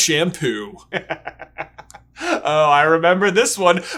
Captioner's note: laughter